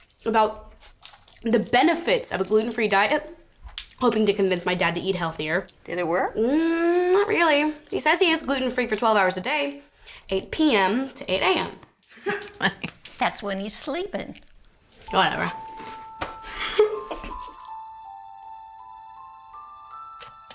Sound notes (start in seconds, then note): 16.5 giggles